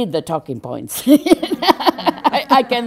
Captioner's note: general laughter